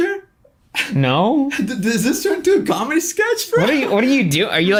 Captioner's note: laughs